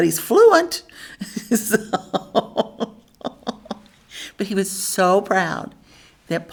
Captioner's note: laughs